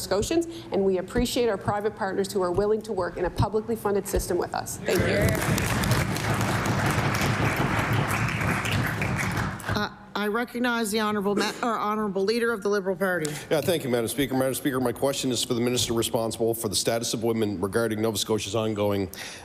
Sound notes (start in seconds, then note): 9.1 applause